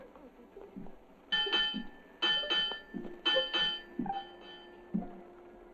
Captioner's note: bell ringing; Adam's footsteps on deck